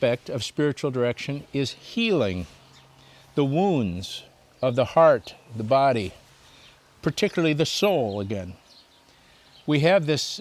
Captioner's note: birds chirping